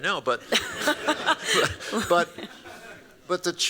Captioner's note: laughter